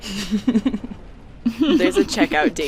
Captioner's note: laughter